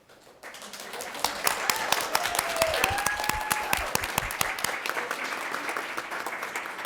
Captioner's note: people applaud; people cheer